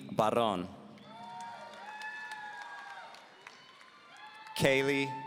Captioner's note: audience cheering